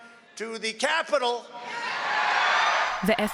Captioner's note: cheering and applause